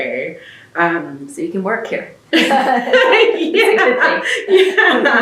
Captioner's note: laughter